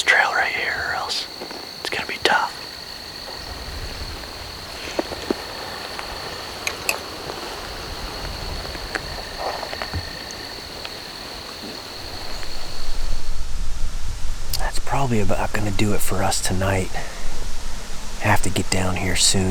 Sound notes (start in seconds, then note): 3.7 insects